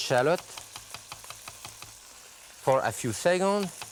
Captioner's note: knife clicking